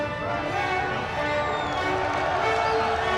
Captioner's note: crowd cheers